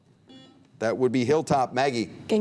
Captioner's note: buzzer beep